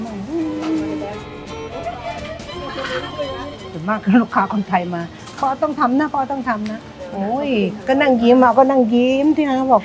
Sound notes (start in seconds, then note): 2.7 people laughing; 3.9 speaking Thai